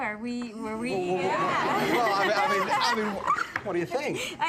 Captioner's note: laughter